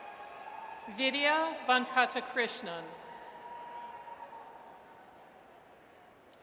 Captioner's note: audience cheers